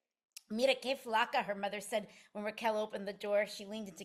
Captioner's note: speaking in spanish